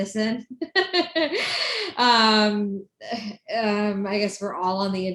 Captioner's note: laughing